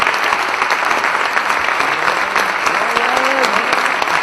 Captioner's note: applause